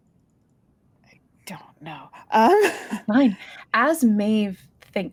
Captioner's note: chuckles